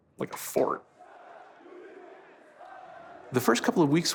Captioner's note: men chanting indistinctly